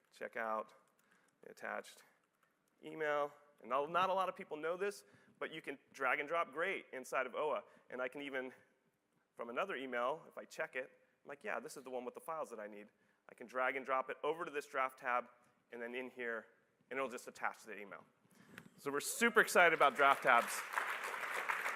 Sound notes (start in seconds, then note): 16.6 applause